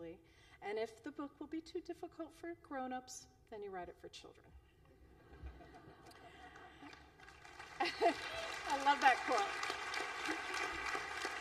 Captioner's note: applause